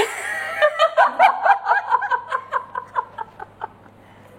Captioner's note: laughter from the kitchen